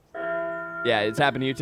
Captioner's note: bell tolls